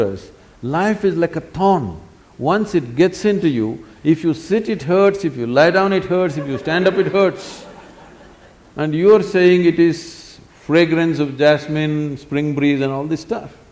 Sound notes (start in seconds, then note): 6.2 laughter; 6.2 笑聲